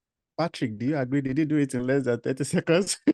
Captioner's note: laugh